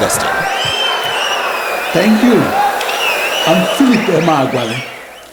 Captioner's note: wild applause and cheering for 22 seconds